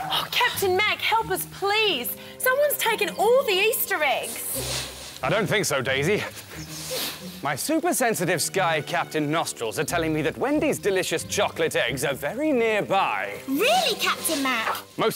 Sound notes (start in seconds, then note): 4.5 super sniff!